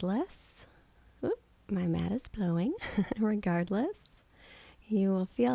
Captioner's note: giggling